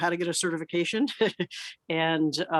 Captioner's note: laughs